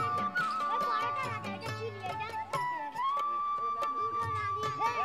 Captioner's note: Indian spoken audio